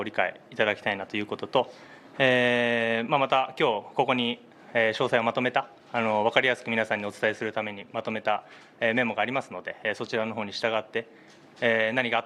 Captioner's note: speaking in global language